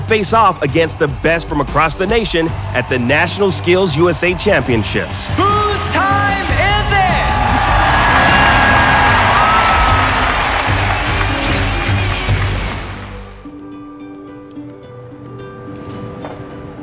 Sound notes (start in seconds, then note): 7.1 crowd cheering; 11.0 upbeat energetic music; 13.5 gentle ethereal music